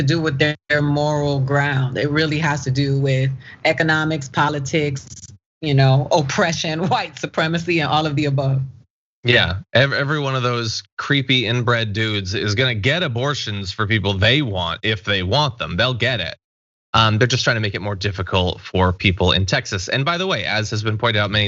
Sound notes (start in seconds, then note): 5.8 laugh